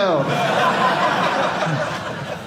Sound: audience laughing

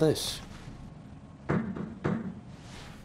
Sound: knocks on glass

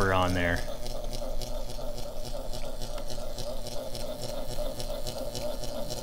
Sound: electricity zapping rhythmically

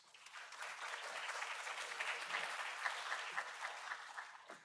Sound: applause

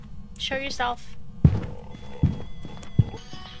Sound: ghost moaning, stomping, EMF buzzing

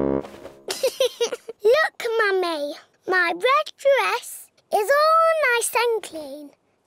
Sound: giggles

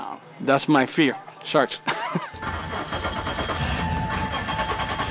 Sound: laughing

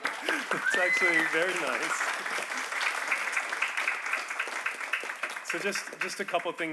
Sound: audience applauding

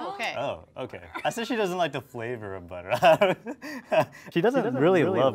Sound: laughs

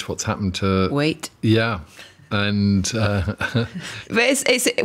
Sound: chuckles

